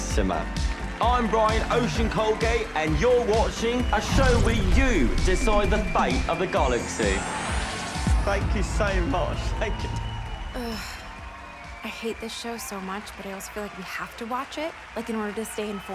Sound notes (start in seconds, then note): 6.3 audience cheering, applauding